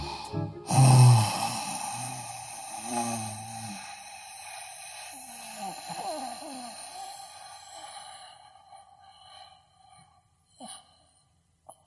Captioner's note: inhale; long sigh